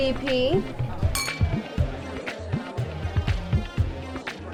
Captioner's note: clinking